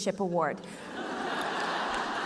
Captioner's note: laughter